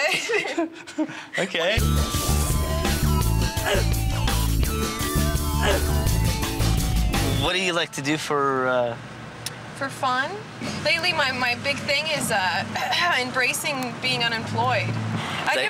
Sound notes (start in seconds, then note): 0.0 laughs; 3.4 upbeat techno music; 12.4 coughs